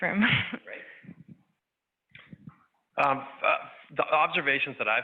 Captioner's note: laughs